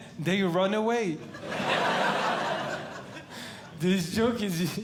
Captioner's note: audience Laughing